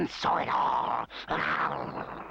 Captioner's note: snarling